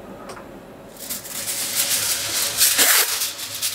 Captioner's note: crackling of foil